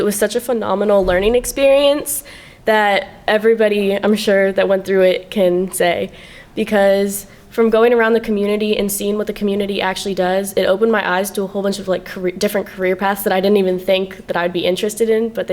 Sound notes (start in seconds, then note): none